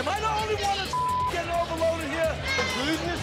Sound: beep

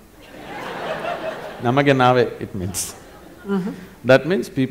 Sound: laughter; in Kannada; laughter

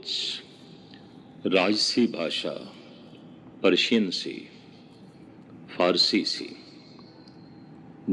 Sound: Farsi

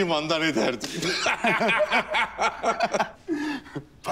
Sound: laughter

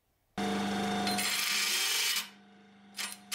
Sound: drum sander whirring

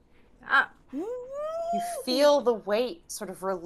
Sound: Fairuza squeals

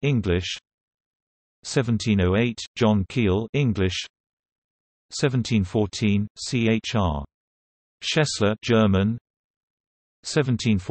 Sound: German

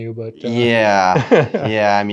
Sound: interviewer laughs

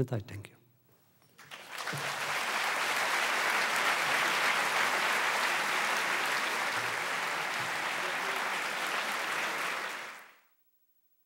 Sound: audience applause

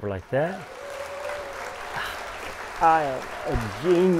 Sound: audience applauding

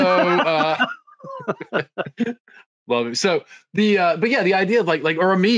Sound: laughing; both laughing

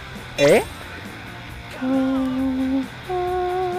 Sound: humming leisurely→

